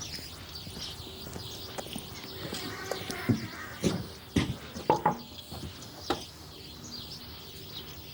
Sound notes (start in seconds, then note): 4.8 knocking